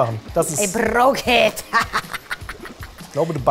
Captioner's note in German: verstellt